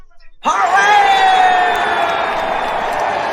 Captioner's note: all cheering